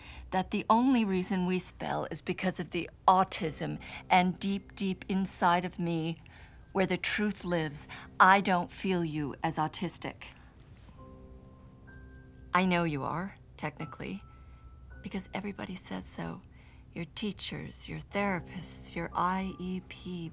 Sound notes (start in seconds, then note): none